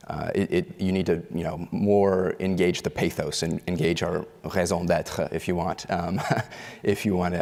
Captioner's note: foreign language